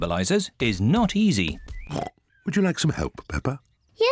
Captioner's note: snorts